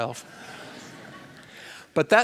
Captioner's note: laughter